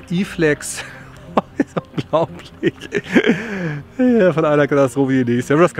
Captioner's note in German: Lacht